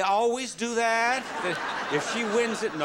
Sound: audience laughing

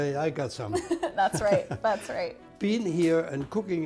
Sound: both laugh

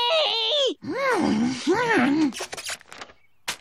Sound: concerned groan

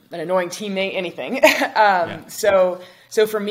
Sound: chuckles

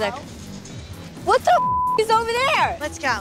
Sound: beep

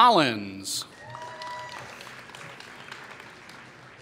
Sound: applause

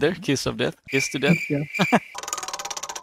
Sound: crickets

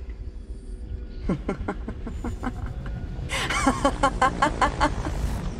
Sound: laughs

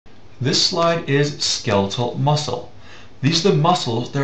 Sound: voiceover

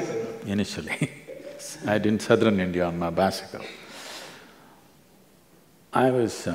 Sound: both laugh

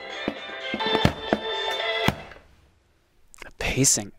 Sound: upbeat disco music; thumping

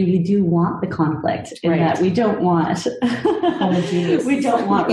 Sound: laughs

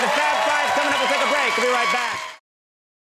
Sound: audience cheering

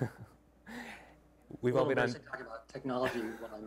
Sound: chuckles

